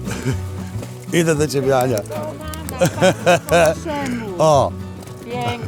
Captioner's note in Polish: śmiech